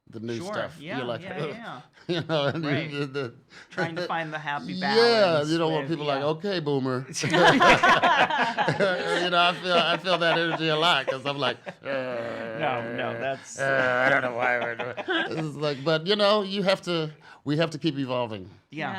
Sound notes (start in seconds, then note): 7.3 multiple people laugh; 12.3 growls